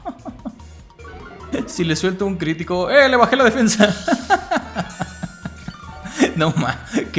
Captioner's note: laughs in good RNG